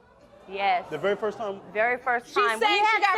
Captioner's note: crowd reacting